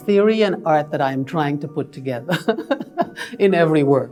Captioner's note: laughs